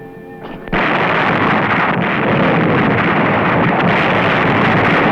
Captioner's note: gunfire